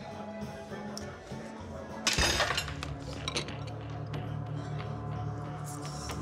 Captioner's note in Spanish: ruido al golpear el vaso